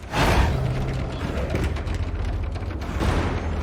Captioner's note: snarling; suspenseful